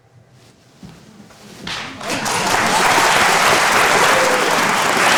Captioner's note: audience applauding